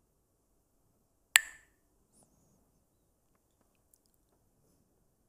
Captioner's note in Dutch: klakt met stokjes